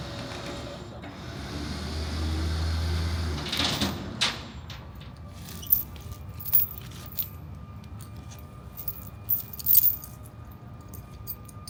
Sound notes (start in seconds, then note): 1.6 chain clanging; 1.6 vehicle rumbling; 6.0 chain clinking